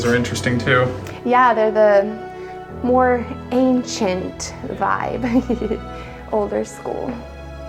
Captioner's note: laughs